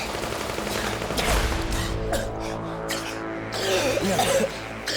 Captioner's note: coughs